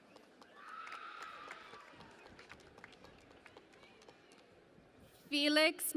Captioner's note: cheering and Applause